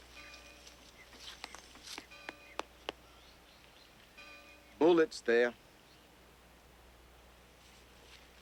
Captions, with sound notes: (stick tapping) - Bullet's there.